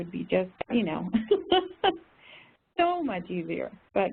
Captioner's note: laughter